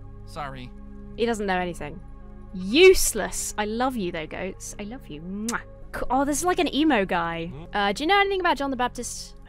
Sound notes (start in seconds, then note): 5.3 kisses